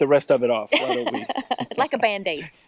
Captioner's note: laughter